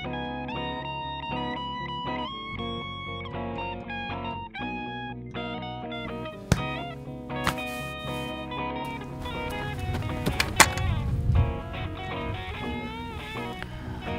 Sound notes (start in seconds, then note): 6.4 punch; 8.9 rushing footsteps; 10.4 sword clatters